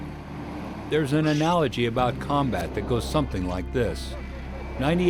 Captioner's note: voiceover